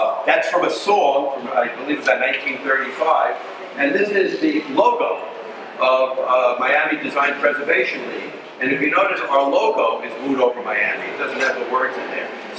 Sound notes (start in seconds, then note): none